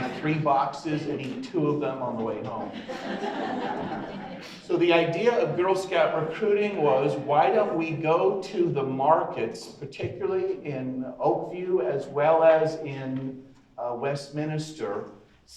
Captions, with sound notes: you buy three boxes and eat two of them on the way home. (audience laughs) So the idea of Girl Scout Recruiting was, why don't we go to the markets, particularly in Oak View as well as in Westminster,